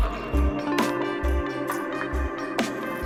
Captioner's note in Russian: шаги